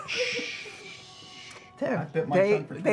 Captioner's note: shushing